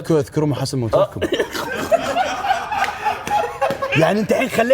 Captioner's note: all laugh